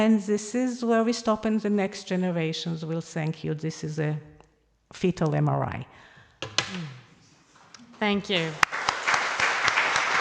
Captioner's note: applause